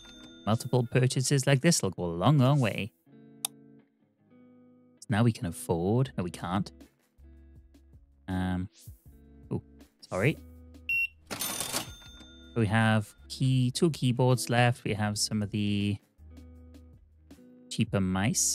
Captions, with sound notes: Multiple purchases like this look a long, long way. Now we can afford, no we can't. (soft music) Oh, sorry. (beeping) We have two keyboards left. We have some of the cheaper mice.